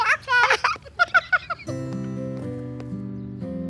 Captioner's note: laughing